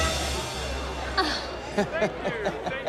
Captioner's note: both laughing